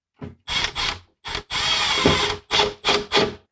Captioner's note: drill whirring